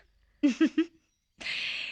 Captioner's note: chuckling